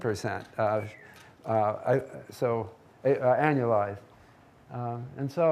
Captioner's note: audience member whistling